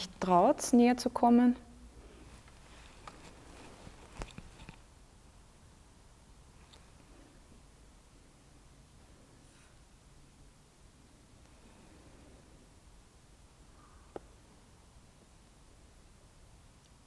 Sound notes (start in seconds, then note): 2.5 silence in the background